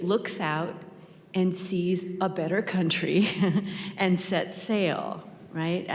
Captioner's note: chuckles